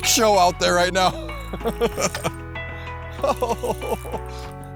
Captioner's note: laughs